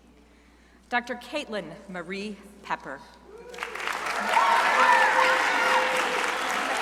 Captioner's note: crowd applauding